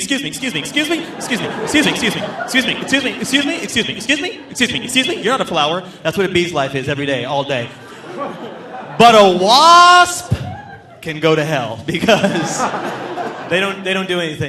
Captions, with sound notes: excuse me, excuse me, excuse me, excuse me, excuse me, excuse me, excuse me, excuse me, excuse me, excuse me, excuse me, excuse me, excuse me, you're not a flower." That's what a bee's life is every day, all day. (audience laughing) But a wasp can go to hell because they don't do anything.